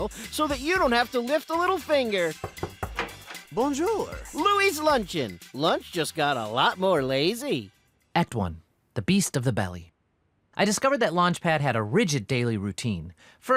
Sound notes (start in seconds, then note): 2.4 knocking; 2.4 door opens